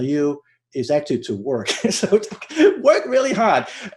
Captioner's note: laughs